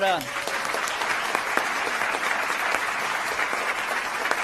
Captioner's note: applause